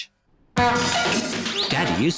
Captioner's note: crashing